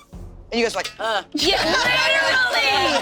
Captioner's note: group laughing